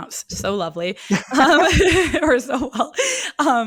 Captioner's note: laughs